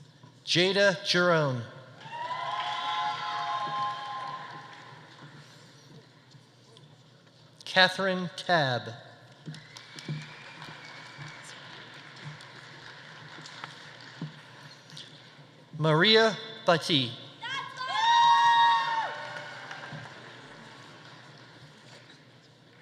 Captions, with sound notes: Jaeda Giron. (audience applauding) (audience cheering) Kathryn Tabb. (audience applauding) (audience whistling) Maria Bhatti. (audience applauding) (audience cheering)